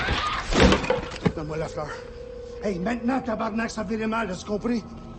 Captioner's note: guy speaking French